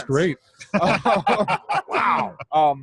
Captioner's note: all laughing